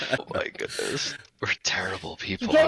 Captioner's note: laughs